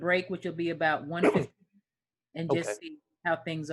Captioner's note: sneezes